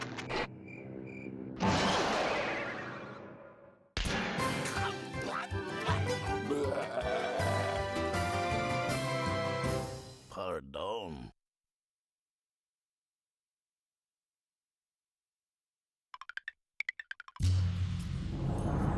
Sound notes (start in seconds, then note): 6.5 growling